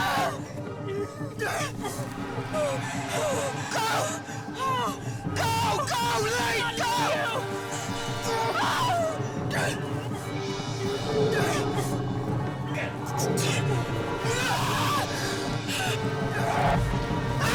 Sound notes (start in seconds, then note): 2.0 dragon roaring; 8.2 screams; 11.4 dragon growls; 14.2 Sogomo screams